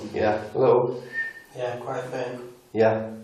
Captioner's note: whistling